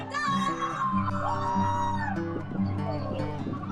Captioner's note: crowd cheering